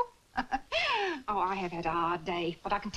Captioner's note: laughs